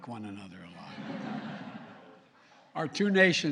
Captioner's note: laughter